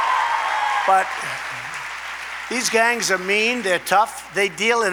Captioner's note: applause